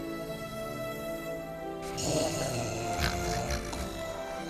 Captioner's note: kids snoring